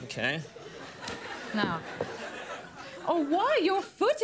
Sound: audience laughs

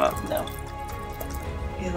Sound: quiet water sloshing noise; background music

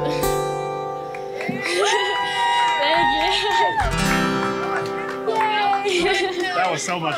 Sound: cheers and applause

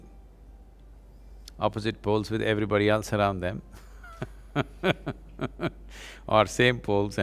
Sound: laughs

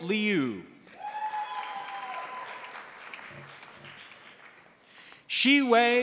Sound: crowd applauding; crowd cheering

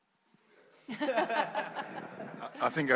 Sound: audience laughing

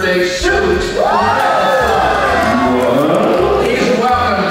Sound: crowd cheers

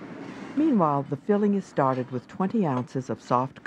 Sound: voiceover

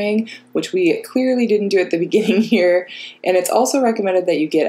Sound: chuckles

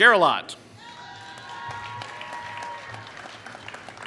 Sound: applause

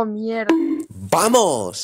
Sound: bonk

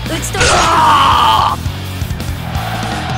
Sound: KO Scream

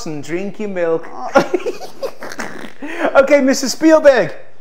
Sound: both laugh

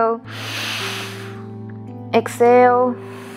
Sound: inhaling; exhaling

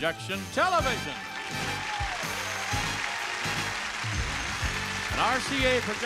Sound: audience applauding

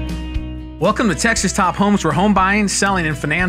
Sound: voiceover

